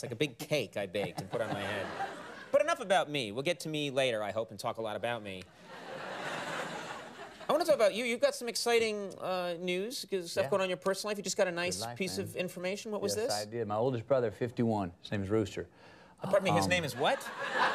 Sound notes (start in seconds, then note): 5.6 studio audience laughs